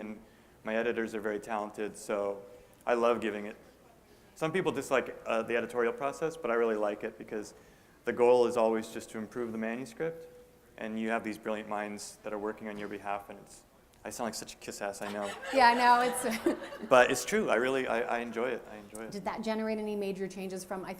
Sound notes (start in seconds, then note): 15.0 laughter; 17.0 chuckle